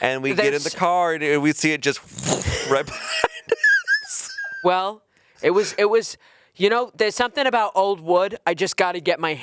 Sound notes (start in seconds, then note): 2.3 chuckling